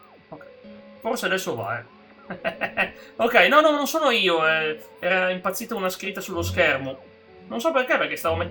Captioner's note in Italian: risate